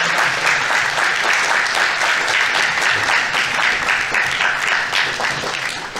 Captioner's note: audience applauding